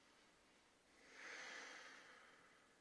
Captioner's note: sigh